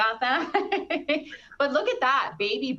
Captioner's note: laughing